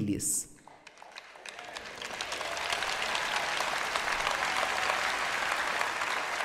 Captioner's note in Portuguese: plateia aplaudindo